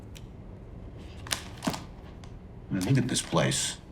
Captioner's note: book rustling